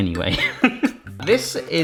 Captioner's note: laughs